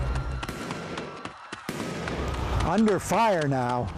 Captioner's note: guns firing